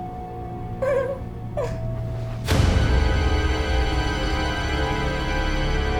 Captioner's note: eerie sinister music; laughs